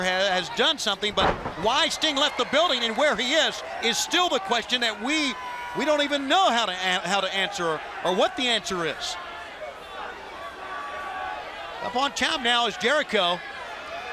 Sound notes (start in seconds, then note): 8.0 crowd chatter